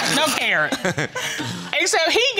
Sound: all laughing

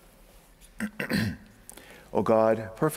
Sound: throat clearing

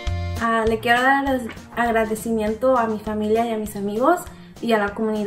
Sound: speaks in foreign language

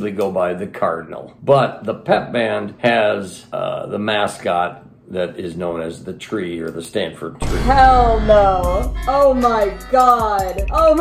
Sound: boom; shitty music

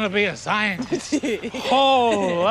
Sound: laughs

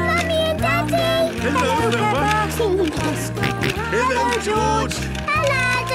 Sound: George giggling and snorting

